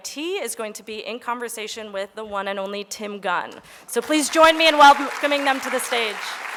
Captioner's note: applause